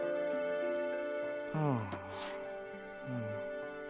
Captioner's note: sighs